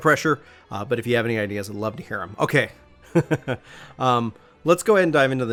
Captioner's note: chuckles to self